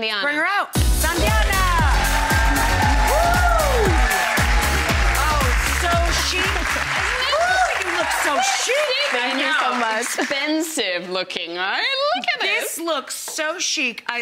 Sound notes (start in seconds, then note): 1.8 audience clapping; 1.8 upbeat music; 2.9 audience cheering